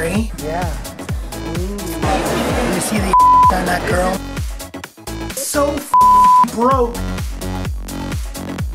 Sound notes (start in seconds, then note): 3.1 beep; 5.9 beep